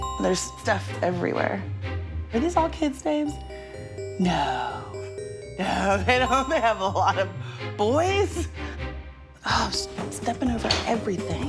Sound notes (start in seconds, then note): 6.3 laughing